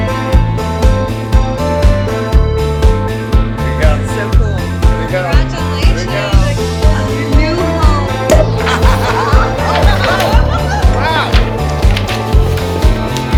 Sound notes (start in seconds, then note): 8.2 cork pops; 8.4 laughs